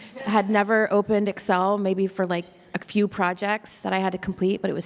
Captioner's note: none